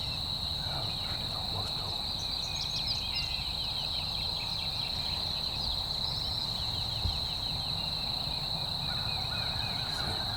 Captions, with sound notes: That other turkey's almost to 'em. (insects chirp) (birds chirp) You see it?